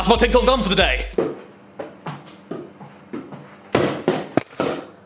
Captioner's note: ball thudding